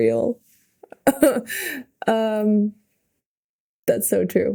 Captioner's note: Mikaela laughing